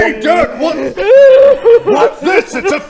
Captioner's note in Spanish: aullido